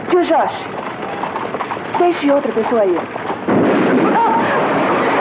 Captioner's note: explosion